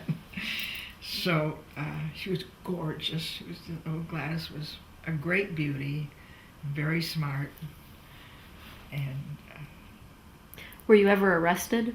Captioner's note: laughs